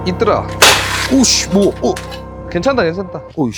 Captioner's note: sound of a gun?